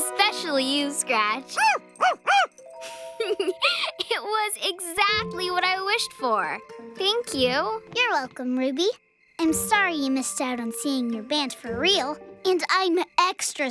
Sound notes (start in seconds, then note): 0.1 barks; 2.8 chuckles